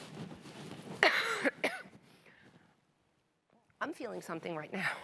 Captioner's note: coughing